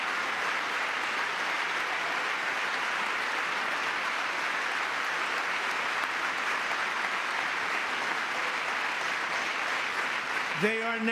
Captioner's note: applause